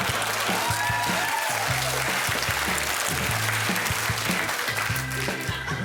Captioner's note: loud laughter and applause